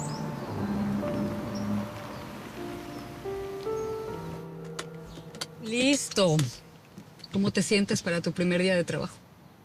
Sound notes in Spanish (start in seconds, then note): 0.7 Ruido de motor de auto; 4.4 Clic de cinto de seguridad